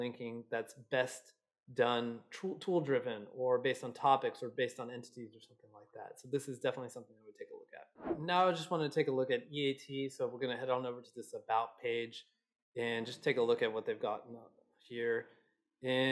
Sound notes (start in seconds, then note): 8.0 air whooshes